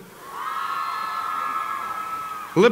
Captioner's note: applause